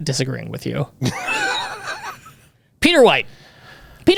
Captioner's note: laughs